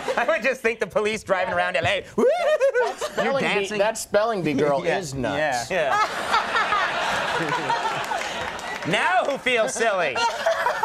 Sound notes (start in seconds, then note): 5.7 Molly laughing; 5.8 audience laughing